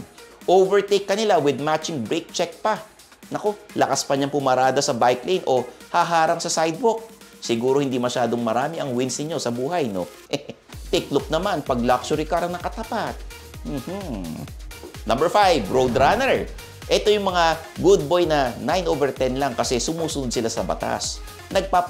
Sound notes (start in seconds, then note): 10.2 chuckles